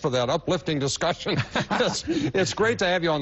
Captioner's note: laughter